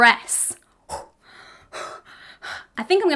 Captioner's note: woman breathes heavily